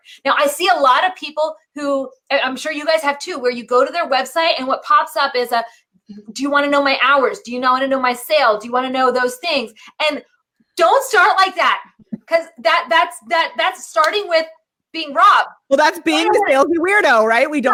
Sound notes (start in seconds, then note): 11.9 laughing